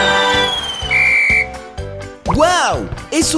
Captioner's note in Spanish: Sonido de silbato